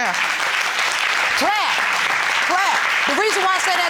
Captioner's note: audience applauding